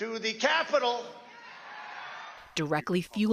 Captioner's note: cheering and applause